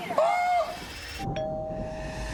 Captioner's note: doorbell rings